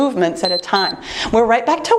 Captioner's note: timer beeps